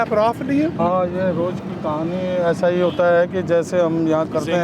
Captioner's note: non-english speech